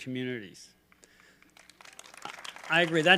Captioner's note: applause